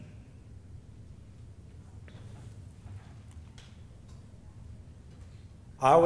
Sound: silence

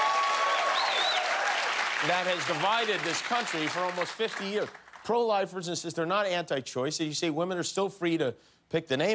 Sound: applause

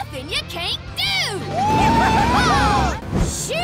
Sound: cheering

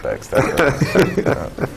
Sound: laugh

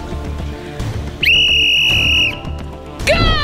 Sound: whistle blowing

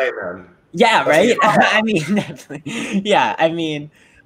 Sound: laughs

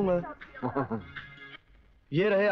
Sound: chuckles

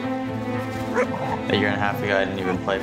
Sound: dogs barking

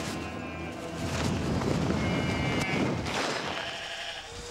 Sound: sheep baa-ing

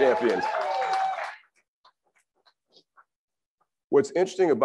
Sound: crowd applauds and cheers

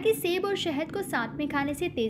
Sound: hindi

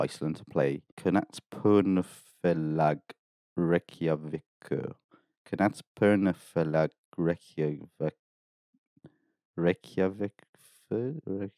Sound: clown butchering the Icelandic language

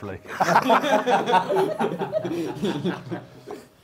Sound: laughs

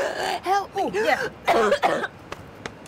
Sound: cough cough

